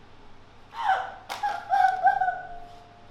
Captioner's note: Opal screams